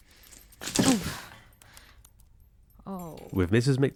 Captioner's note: groans